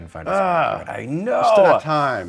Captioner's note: grunting